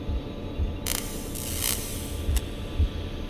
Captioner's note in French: Craquements électriques